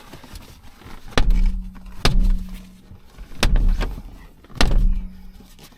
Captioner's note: headrest banging window